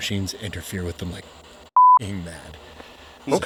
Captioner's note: beep